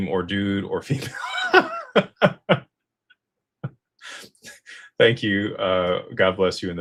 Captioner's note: laughter